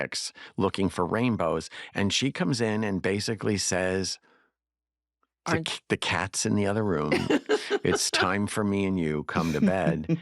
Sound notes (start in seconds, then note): 6.8 laughter